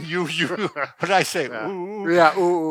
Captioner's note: laughs